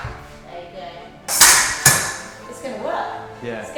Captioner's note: swords clashing